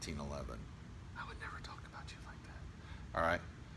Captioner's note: whispering